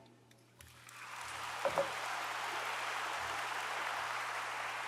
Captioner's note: audience applauds